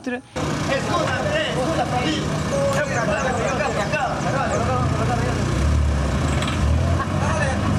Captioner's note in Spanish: Todos gritándole al pobre jajaja